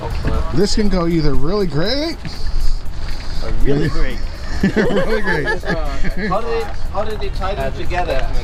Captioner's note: laughing